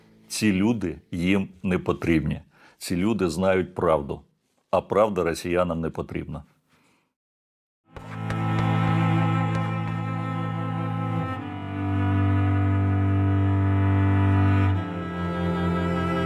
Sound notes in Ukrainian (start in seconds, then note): none